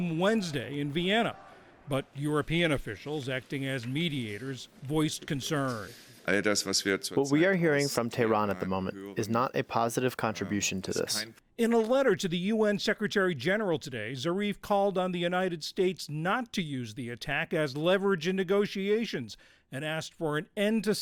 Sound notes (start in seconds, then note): 6.6 through translator